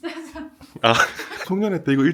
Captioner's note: chuckles